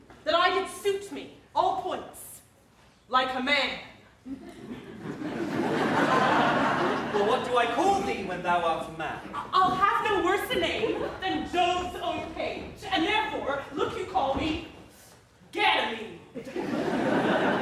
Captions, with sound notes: That I did suit me all points like a man? [audience laughs] Well what do I call thee when thou art a man? I’ll have no worse a name than Jove’s own page, And therefore look you call me Ganymede.